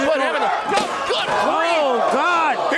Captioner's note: loud crash